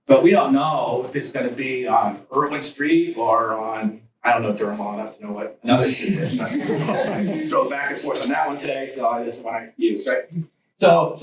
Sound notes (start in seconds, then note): 5.6 students chuckle